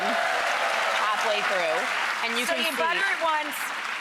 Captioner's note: audience applause